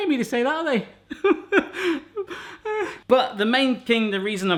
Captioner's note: cries